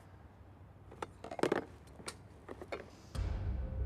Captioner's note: objects clattering